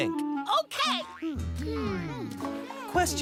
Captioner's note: "hmm" as they think